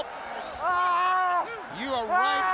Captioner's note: Ray screaming